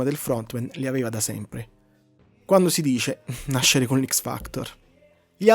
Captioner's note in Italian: risate